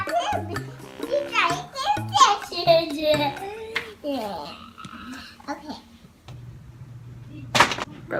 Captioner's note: toddler voice and laughter